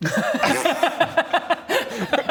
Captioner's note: mature giggles